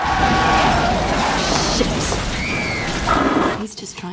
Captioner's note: screeching tires and crash; screaming; bowling sounds